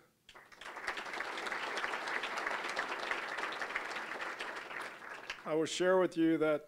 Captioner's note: applause